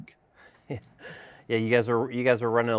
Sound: chuckles

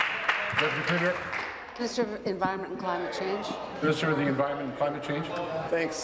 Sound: applause

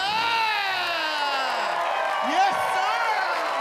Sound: audience cheer and applaud

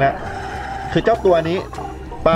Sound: inhale

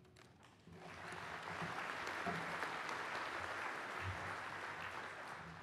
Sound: clapping

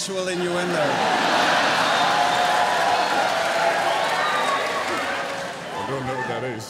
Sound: cheering

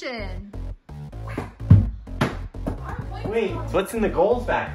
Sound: ball rattling

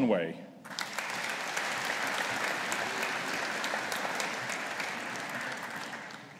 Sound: audience applauding

